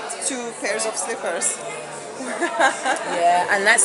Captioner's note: laughs